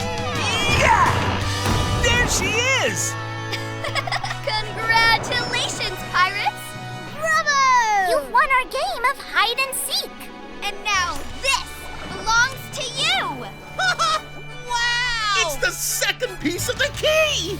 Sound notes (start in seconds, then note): 0.4 grunting; 3.4 laughing; 12.9 laughing